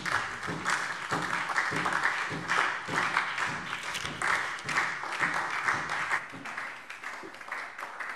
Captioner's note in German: Beifall SPD